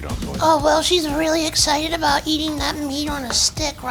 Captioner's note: high voice